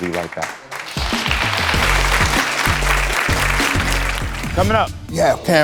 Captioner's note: audience applauds